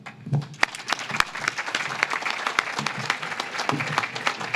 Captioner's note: audience claps